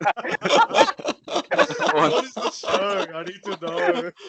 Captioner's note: cackling; dying seal